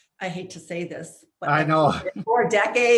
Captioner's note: chuckling